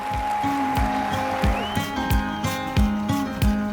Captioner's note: applause